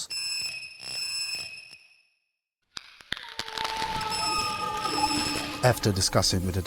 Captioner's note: scary phone ringtone